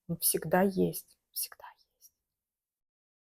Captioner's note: whispering